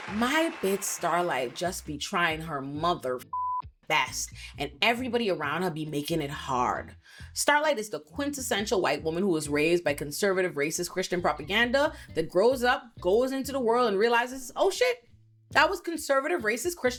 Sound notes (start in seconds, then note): 3.2 beep